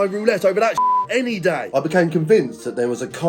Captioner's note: beep